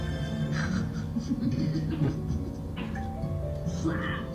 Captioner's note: laughing softly